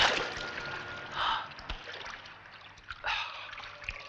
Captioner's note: none